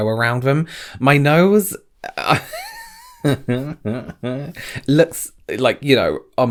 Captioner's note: laughs